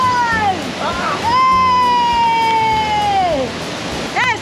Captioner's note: screams